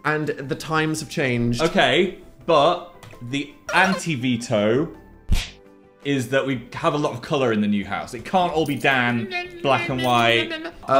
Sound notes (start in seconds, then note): 5.1 smacking noise